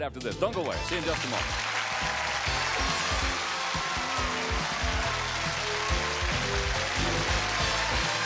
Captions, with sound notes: back with Card Sharks right after this, don't go away, see you in just a moment. (applause and cheers) (theme music playing)